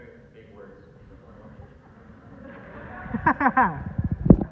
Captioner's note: audience laughter